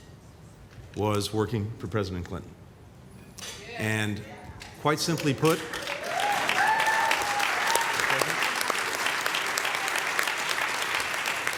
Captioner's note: applause